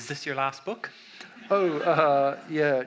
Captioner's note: audience laughs